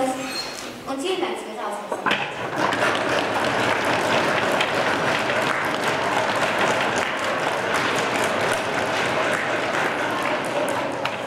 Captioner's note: applause